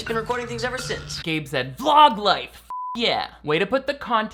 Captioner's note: beeps